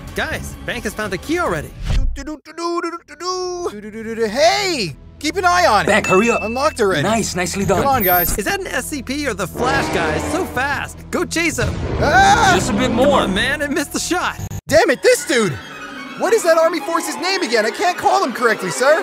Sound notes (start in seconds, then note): 11.9 screams